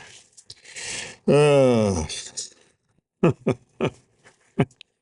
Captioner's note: Harrison laughing